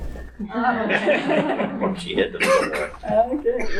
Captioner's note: audience laughing